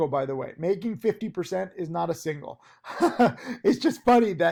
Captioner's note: laughing